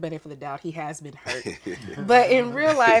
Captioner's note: men Chuckling